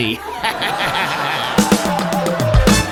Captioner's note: laughs